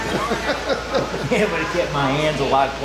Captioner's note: laughing